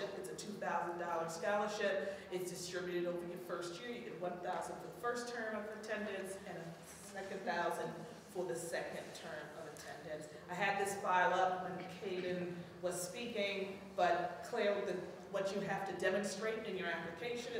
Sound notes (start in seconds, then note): none